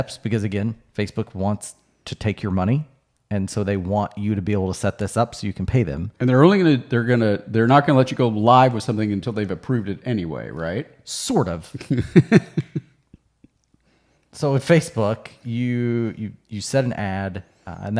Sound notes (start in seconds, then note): 11.7 laughing